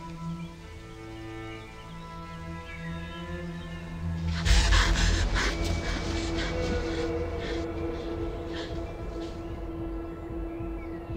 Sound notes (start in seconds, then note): 4.1 dark tense music; 4.4 Brigit gasps